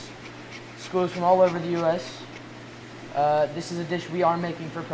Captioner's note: zester grating